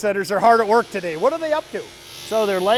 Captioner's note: machinery whirring